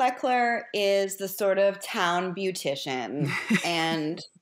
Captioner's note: laughs